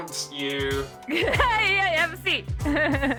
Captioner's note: woman laughs